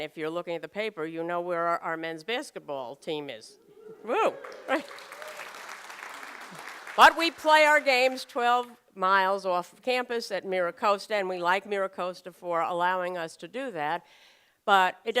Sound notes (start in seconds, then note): 4.2 applause and Cheering